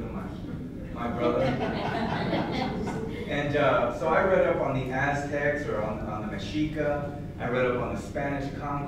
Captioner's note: laughter